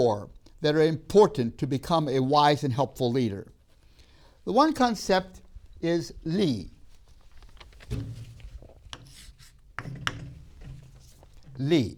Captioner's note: chalk sounds